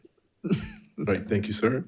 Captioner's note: member laughs